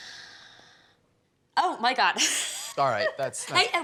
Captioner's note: laughs